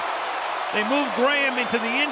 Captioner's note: cheering